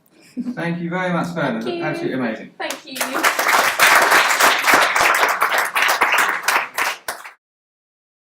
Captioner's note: applause